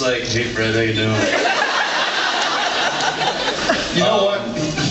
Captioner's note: laughs